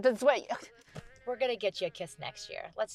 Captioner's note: Cher scoffs